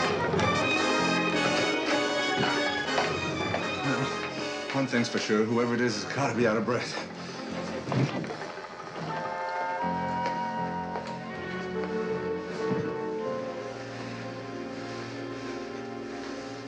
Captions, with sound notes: One thing's for sure, whoever it is has got to be out of breath. [all breathing heavily]